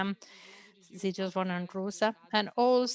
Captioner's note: speaks in foreign language